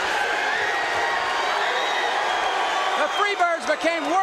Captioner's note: audience cheering